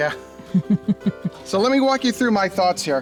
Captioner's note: laughs